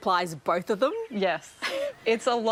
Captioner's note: laughs